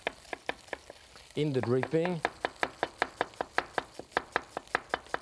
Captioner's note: knife chopping